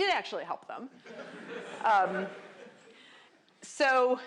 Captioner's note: laughter